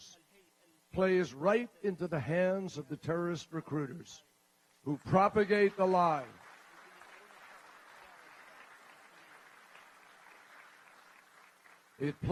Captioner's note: applause